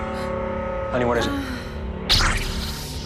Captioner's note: groans